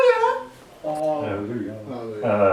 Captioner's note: all murmur